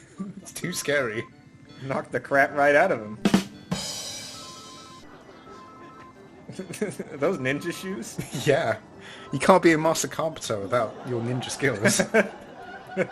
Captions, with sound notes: Too scary! It knocked the crap right out of him. *Drum roll* *Chuckles* Are those ninja shoes? Yeah! You can't be a master carpenter without your ninja skills.